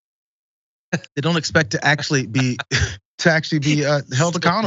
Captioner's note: laugh